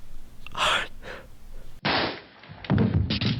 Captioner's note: shot banging; body thumping